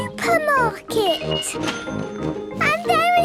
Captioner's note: cash register dinging